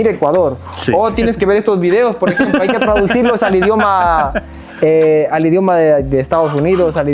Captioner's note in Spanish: risas